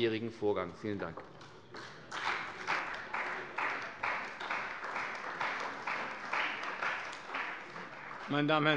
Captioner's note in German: Beifall bei der CDU und dem BÜNDNIS 90/DIE GRÜNEN